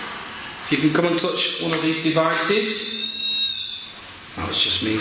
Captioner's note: squealing